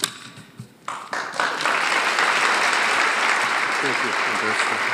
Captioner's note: audience applauding